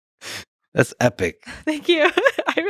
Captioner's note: laughs